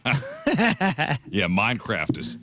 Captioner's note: laughter